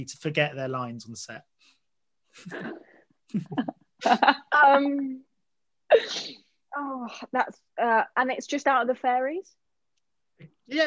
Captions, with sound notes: to forget their lines on set? (Hannah laughs) - Oh, that's... And that's just out of the fairies?